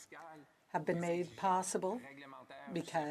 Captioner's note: speaking French